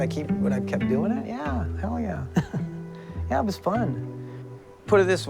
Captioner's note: chuckles